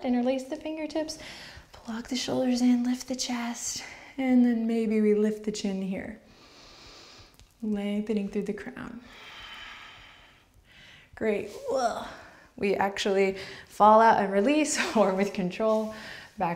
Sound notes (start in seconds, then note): 6.2 breaths